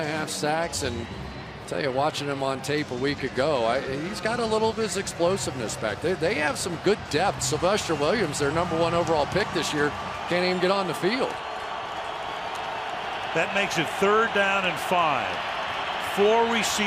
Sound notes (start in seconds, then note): 11.9 cheering